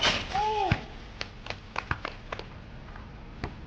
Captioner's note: clapping